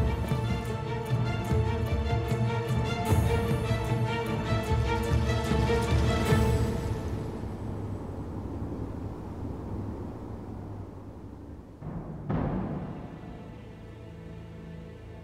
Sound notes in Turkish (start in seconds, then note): 8.0 Rüzgâr esiyor; 12.0 Gerilim müziği